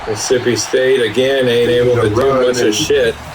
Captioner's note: crowd Noises